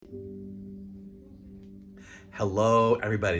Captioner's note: calm synth sound effect